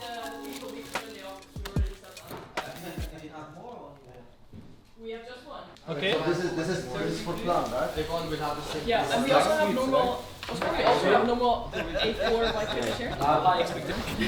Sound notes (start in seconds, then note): 6.7 group chattering